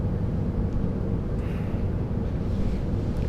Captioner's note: sighs